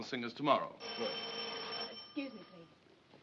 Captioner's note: telephone rings